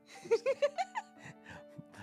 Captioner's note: laughing